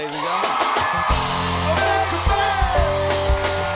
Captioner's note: cheers and applause